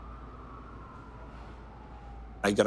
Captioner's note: siren wails